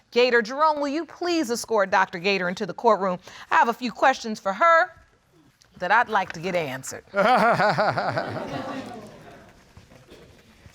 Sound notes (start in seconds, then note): 7.1 laughing